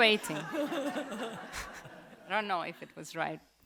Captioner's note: audience laughs